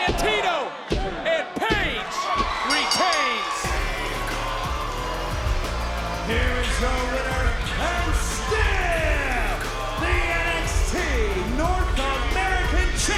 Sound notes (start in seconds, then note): 2.6 bell ringing; 4.8 energetic rock music